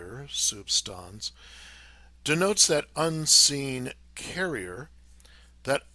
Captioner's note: speaking in foreign language